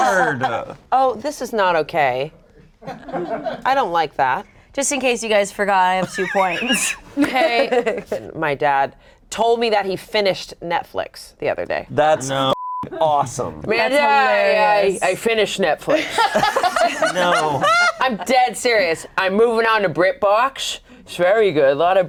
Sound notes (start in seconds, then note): 12.5 beep; 15.9 group laughs